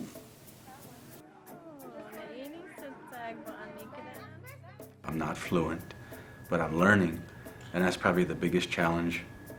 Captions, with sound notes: [ Foreign Language ] >> I'm not fluent but I'm learning. And that's probably the biggest challenge.